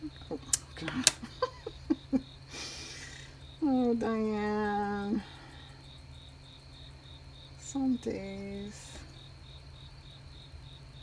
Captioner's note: laughs